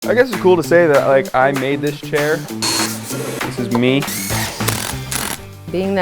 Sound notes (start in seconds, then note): 0.0 upbeat music begins; 2.3 buzzing; 2.3 sanding; 4.0 drill buzzes